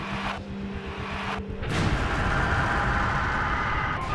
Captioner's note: explosion